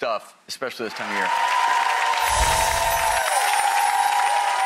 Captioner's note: crowd applauds